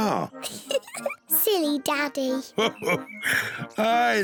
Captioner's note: laughs